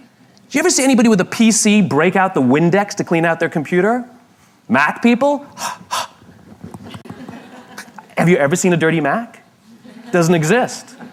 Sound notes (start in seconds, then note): 5.5 respirando pesadamente; 7.0 La audiencia se ríe